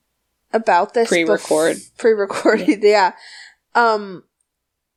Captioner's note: laughs